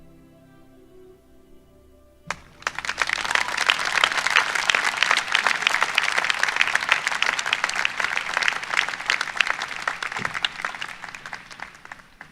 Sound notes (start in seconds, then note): 2.2 applause